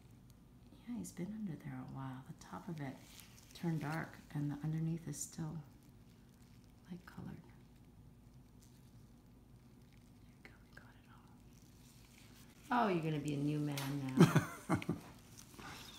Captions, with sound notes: Yeah, he's been under there awhile. The top of it turned dark and underneath is still light colored. (whispers) There we go we got it all. Oh, you're gonna be a new man now! (laughter)